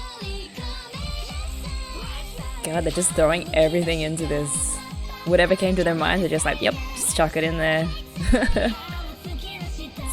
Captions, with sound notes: God, they're just throwing everything into this. Whatever came to their minds, they're just like, 'Yep, just chuck it in there!' [laughs]